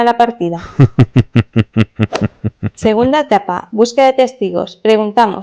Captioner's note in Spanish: risas